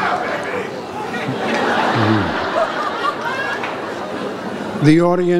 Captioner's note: audience laughs